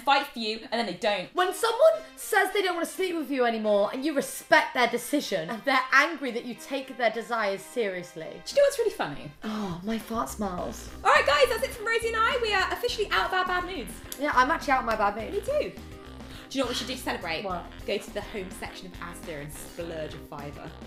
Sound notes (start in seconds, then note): 9.3 interrupting